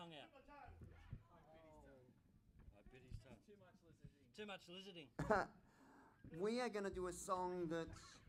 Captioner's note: laughs